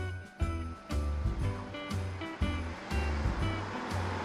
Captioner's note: engine roaring